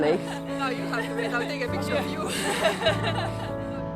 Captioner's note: chatter, laughing